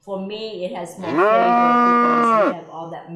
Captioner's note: cow mooing